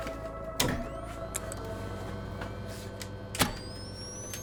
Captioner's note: switch clicking; radio humming